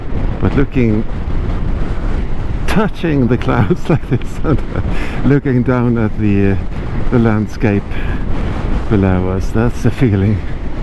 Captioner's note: haha